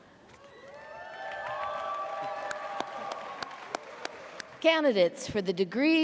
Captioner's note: audience cheers